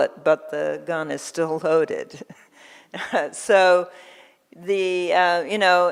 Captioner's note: laughs